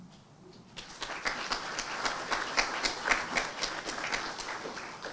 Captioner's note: audience applauding